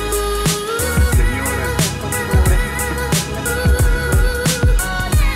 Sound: people in plane talking

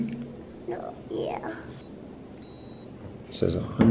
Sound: thermometer beeping

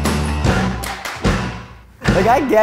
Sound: clapping

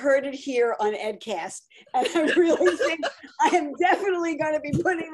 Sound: laughs

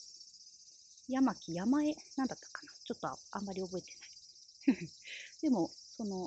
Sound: laughs

